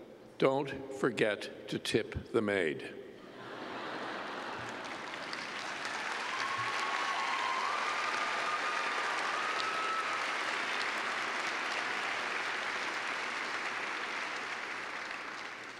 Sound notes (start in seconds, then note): 3.2 laughter; 4.0 cheers and clapping